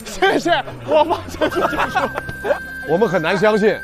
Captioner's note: haha